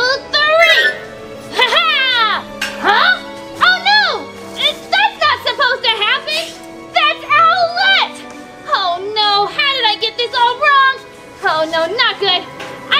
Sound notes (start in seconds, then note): 1.4 laughing